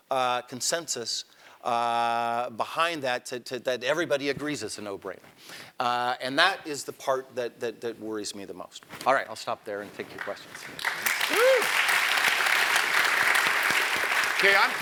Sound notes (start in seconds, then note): 10.1 applause